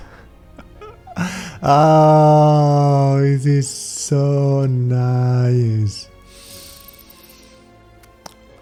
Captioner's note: sniff